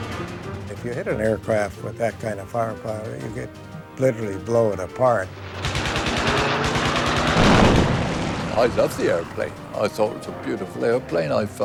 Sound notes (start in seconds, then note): 5.5 guns firing; 7.4 canon explodes